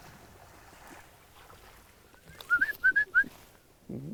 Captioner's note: water sloshes; hunter whistling